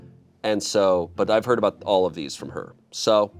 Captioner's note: none